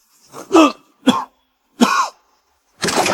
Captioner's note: cough, cough